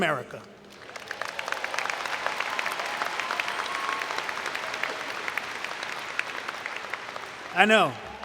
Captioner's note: cheering and Applause